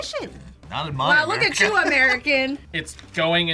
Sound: laughs

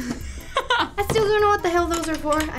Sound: laughs

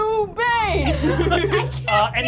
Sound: laughing

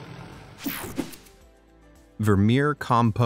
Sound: air whooshing

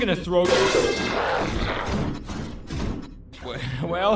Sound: loud crash, sparkeater grunts

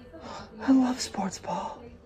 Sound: very close whisper

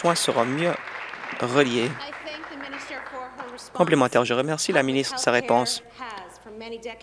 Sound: applause

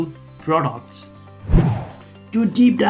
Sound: air whooshing

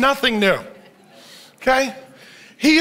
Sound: audience laughs

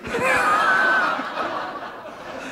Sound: laughter

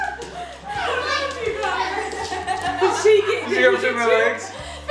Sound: laughing

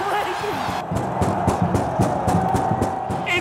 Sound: fans cheering & stomping

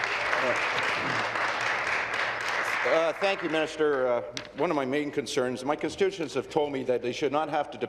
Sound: applause

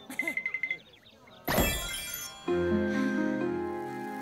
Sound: sighing

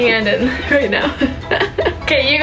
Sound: laughing

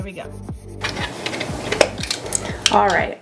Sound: camera clinks

